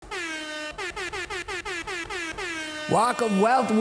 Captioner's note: horn blowing